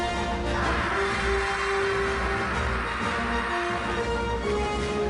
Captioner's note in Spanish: Grita